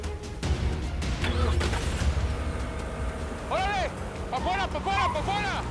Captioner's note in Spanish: Sonido de los carros